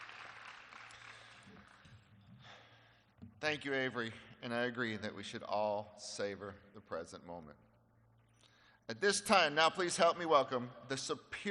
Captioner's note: applause